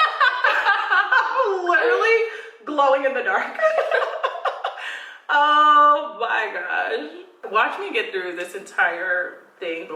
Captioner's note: laughing